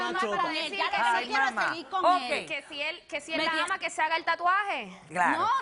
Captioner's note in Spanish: Hablan al unísono